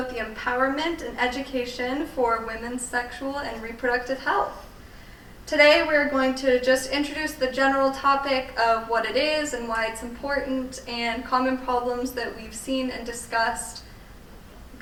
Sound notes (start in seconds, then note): none